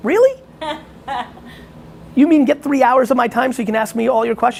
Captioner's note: laughing